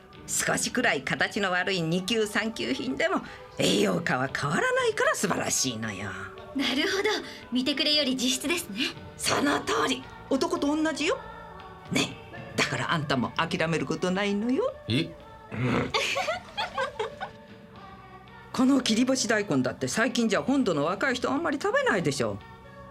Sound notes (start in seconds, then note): 15.9 Laughter from Kurita and Niki